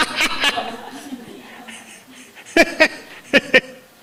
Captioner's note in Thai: เสียงหัวเราะ